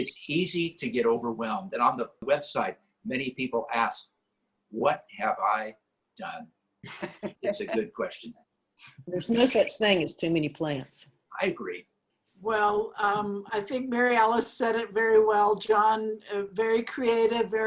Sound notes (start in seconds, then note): 6.8 laughter